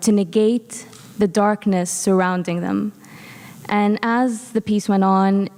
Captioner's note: none